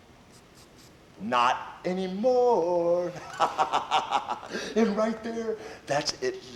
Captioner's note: laughs